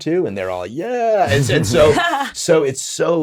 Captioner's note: hosts laughing